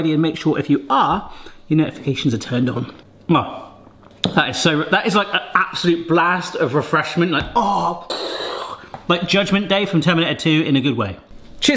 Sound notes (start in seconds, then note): 7.9 hisses